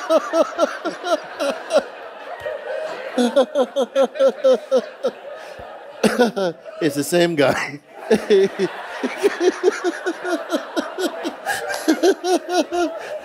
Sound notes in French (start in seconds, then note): 0.0 le fou rire continue; 8.0 ne peut pas arrêter de rire